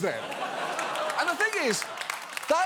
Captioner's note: audience laughs